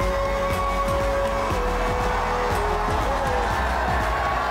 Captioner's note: crowd cheering and applauding